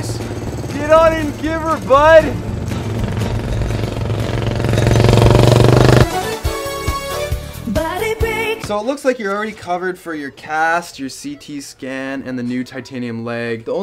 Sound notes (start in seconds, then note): 3.2 loud motor